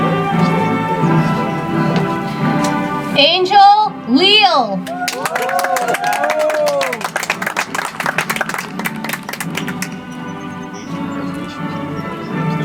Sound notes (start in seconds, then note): 4.8 audience applauds; 9.8 soft music